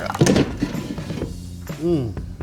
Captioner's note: air fryer basket thuds